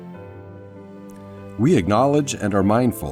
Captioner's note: none